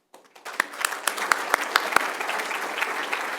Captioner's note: applause